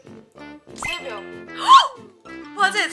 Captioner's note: surprised